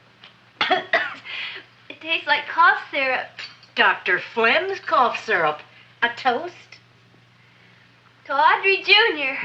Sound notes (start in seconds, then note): 0.6 coughs